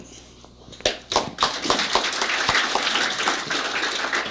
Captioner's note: applause